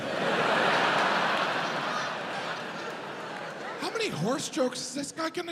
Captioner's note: audience laughs